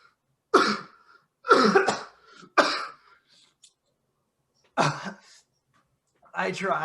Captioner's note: various dying coughs